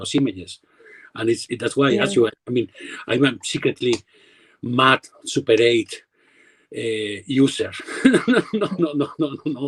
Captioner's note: laughs